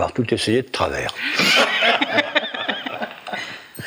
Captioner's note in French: rires